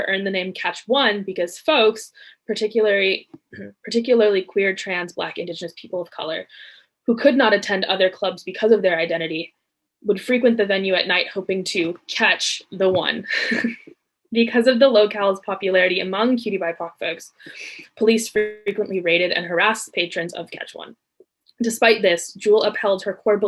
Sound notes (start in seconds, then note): 13.1 laughs